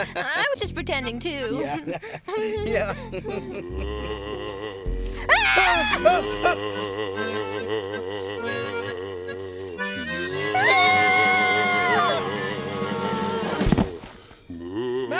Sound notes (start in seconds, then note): 1.6 both chuckling; 4.1 ghostly moaning; 5.1 both screaming; 9.9 ghostly moaning; 10.5 both screaming